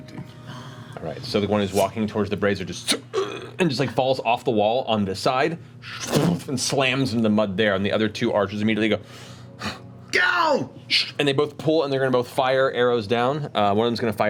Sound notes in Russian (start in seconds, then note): 9.6 кричит